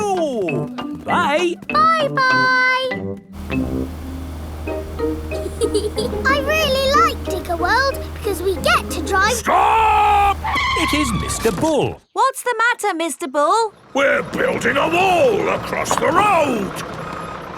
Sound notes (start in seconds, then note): 5.3 george chuckling; 11.1 tires screeching